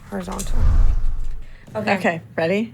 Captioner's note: air whooshes